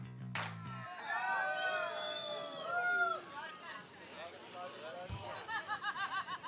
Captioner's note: people cheering; people chattering